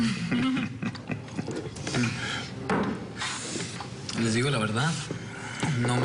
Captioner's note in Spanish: Risas